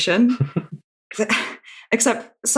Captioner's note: laughs